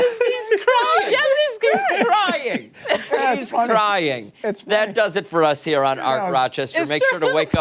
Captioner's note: laughter